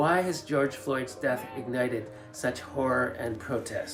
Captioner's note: chanting